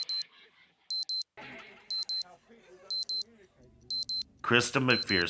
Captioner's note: beeps